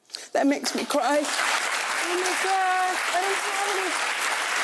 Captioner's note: audience applauding